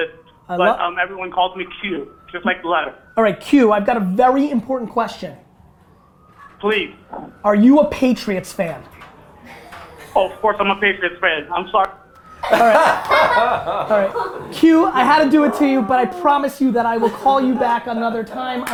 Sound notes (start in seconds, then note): 12.4 group laughter